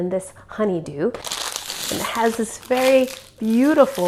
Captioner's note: package crackles